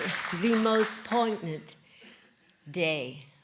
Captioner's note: cheering & Applause